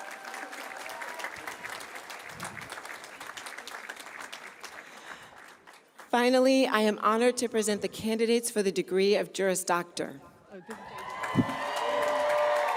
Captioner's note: cheers and applause